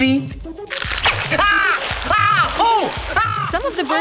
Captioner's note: screaming